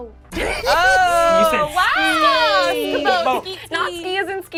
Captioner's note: overlapping chattering